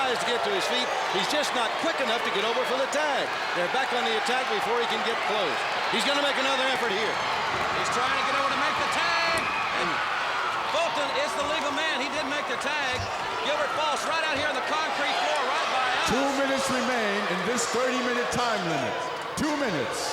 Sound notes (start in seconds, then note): 14.0 crowd cheering